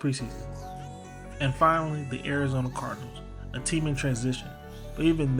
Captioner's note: voiceover